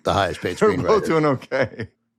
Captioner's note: chuckles